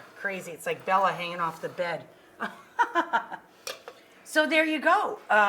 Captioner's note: chuckles